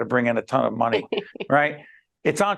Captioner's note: laughing